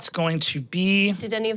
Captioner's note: dice clinking